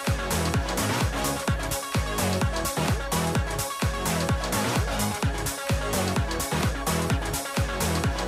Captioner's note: none